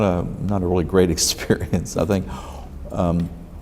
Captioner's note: laughs